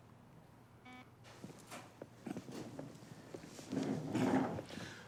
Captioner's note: intercom beeps